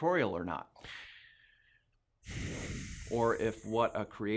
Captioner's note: sigh